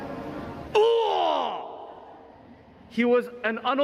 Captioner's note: unusual scream